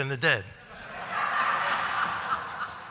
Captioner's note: laughter